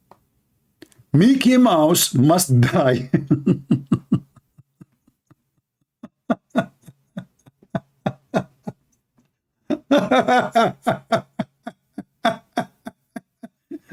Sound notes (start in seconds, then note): 3.0 Ketawa